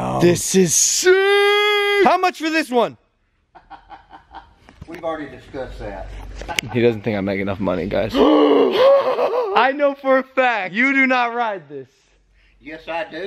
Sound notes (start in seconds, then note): 3.6 laughs; 8.8 gasp